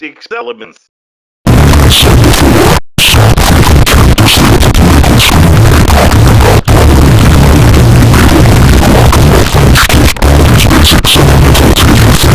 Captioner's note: yelling Earrape